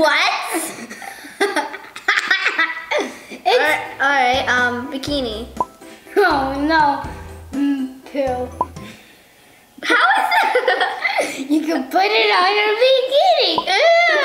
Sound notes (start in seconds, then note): 9.9 laughing; 14.0 silly music